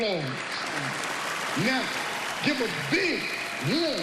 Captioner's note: applause